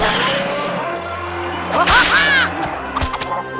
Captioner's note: whip snaps